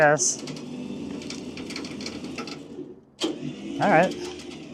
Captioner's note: trailer whirring